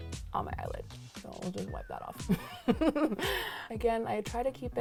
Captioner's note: laughs